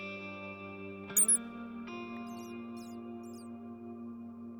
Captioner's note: bats squeaking